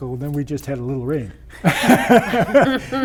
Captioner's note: laughter